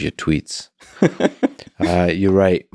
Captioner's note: laughing